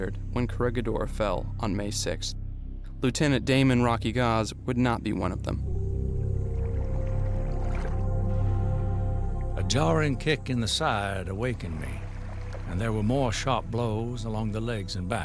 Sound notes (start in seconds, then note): 8.0 water gushing